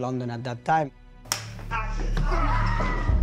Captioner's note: woman screams